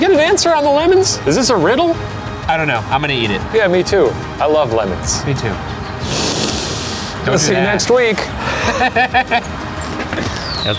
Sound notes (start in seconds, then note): 6.0 sniffs; 8.3 both laugh